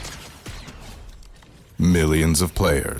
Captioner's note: lasers shooting